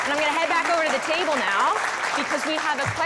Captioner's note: applause